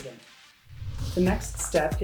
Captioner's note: whooshing